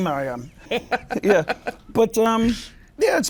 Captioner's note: laughs